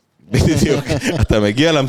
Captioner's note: laughter